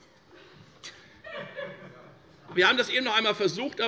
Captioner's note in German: Lachen bei der CDU